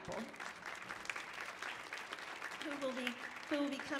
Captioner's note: audience applauding